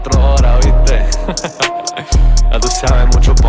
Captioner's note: laughing